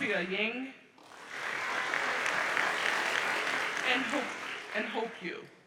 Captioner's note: audience applauds